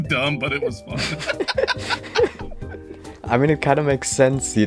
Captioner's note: both Laughing